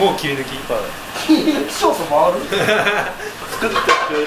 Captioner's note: laughs